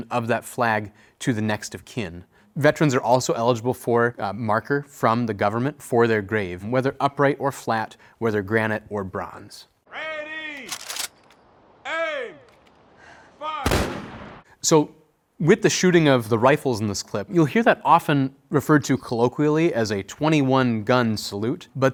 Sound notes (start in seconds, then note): 10.6 rifles clicking; 13.6 rifles firing